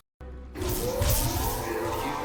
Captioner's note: electricity whirring